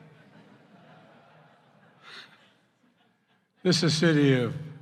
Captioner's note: laughter